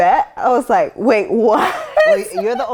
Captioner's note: laughs